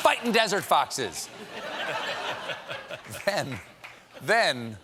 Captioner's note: laughter